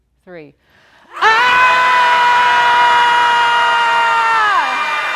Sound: all screaming

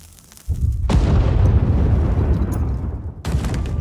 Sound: barrels explode

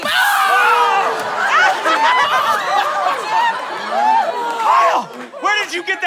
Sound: screaming

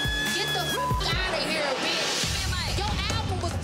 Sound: beep

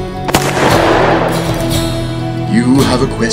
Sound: acoustic music; gun pops

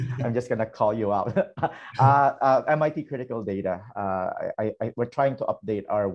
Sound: laughter

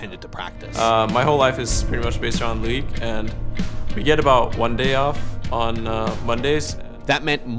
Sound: Bjergsen speaking

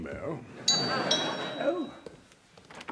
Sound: doorbell rings

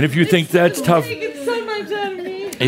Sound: laughter

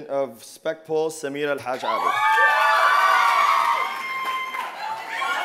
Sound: loud applause and cheers

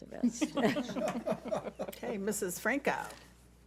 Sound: board laughs

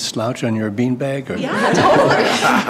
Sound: laughter

